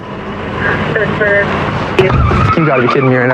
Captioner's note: radadio c chahatter